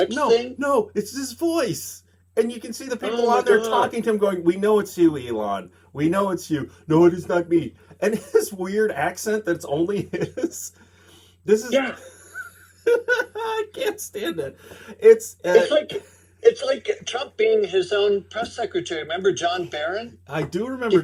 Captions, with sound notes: No, no, it's his voice. And you can see the people out there talking to him, going, we know it's you, Elon. We know it's you. “No, it is not me.” And his weird accent that it's only his. Yeah. (laughing) I can't stand it! It's it's like. It's like getting Trump being his own press secretary. Remember John Barron? I do remember John Barron.